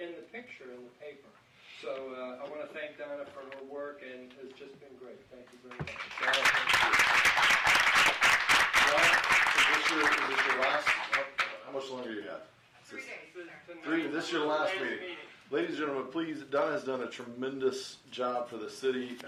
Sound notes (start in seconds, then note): 9.1 applause